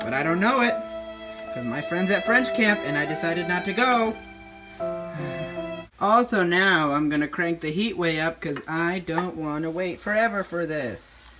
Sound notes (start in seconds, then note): 5.1 sigh